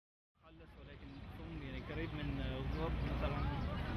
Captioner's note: non-english speech